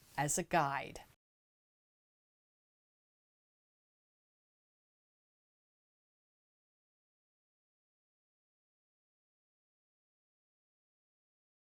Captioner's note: no Sound Present